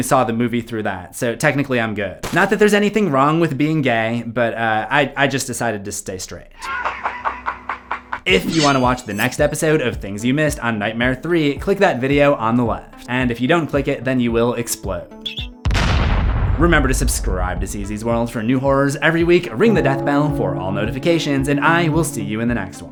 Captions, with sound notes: saw the movie through that, so technically, I'm good. Not that there's anything wrong with being gay, but I just decided to stay straight. (laughter) If you want to watch the next episode of Things You Missed on Nightmare Three, click that video on the left, and if you don't click it, then you will explode. Remember to subscribe to CZsWorld for new horrors every week. Ring the Deathbell for all notifications, and I will see you in the next one,